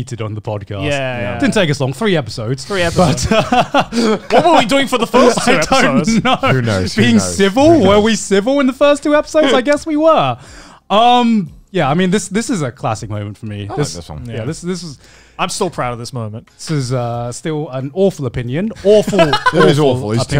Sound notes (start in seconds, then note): 2.8 laughing